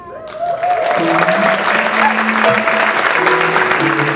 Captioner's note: audience clapping